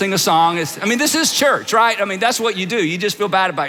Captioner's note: audience laughs